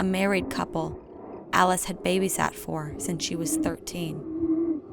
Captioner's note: sexual noises